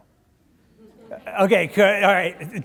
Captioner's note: audience laughing